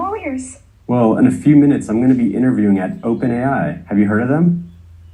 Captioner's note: female AI voice; male AI voice